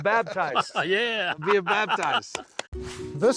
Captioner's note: laughing